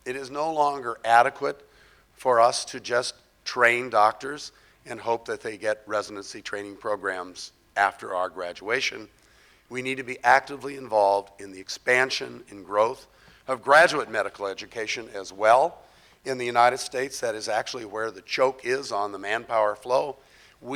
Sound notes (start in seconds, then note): none